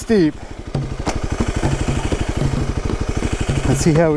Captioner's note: bike wheels whirring